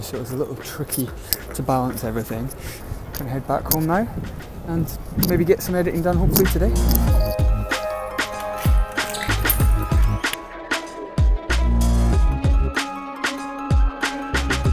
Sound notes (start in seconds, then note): 7.8 key turning in lock; 11.5 electronic music